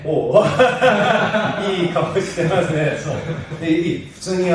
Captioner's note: laughs